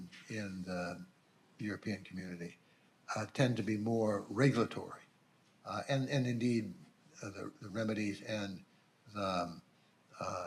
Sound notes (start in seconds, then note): none